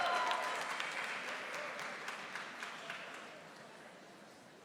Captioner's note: audience applauding